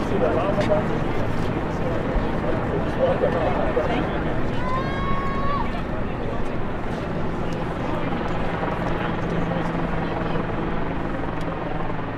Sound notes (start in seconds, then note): 7.9 helicopter whirs